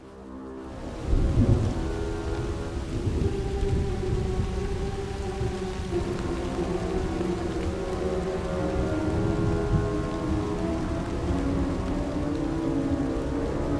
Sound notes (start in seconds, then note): 1.0 rain pattering; 1.0 thunder rumbling